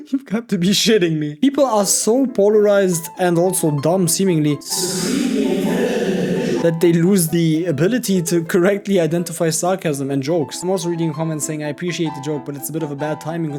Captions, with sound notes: You have to be shitting me. People are so polarized and also dumb seemingly, (speaking in foreign language) that they lose the ability to correctly identify sarcasm and jokes. I'm also reading comments saying I appreciate the joke, but it's a bit of a bad timing